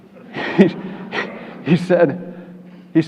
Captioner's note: chuckles